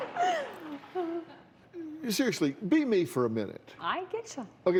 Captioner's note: laughter